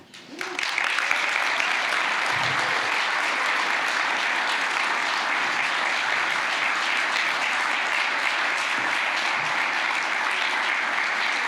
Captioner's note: applause